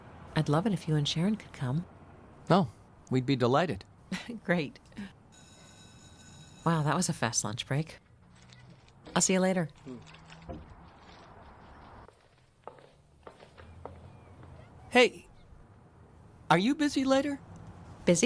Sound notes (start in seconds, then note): 4.3 chuckles; 5.3 bell rings